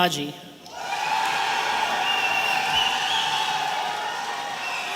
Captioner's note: audience cheering